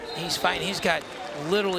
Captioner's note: crowd cheering